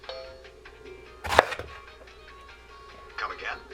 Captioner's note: chopping noise